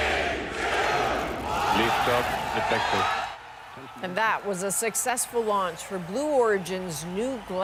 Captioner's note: cheering